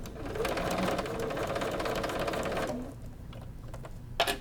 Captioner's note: sewing machine humming